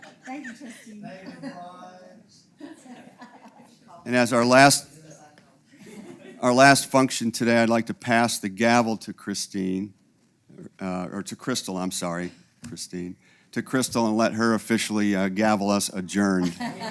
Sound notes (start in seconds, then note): 2.6 laugh